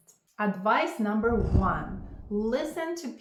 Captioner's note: graphic whooshes